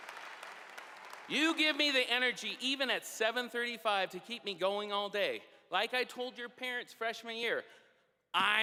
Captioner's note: applause